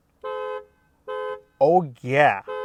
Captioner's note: horn honking